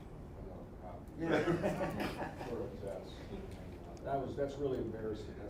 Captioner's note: audience laughing